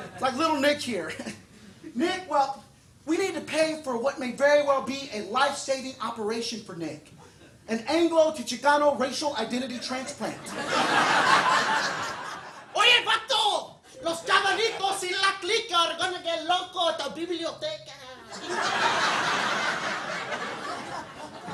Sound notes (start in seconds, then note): 10.0 audience laughing; 12.8 talks in Spanish; 18.2 audience laughing